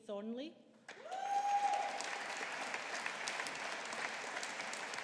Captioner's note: audience applauding